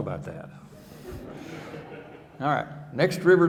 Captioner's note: audience laughing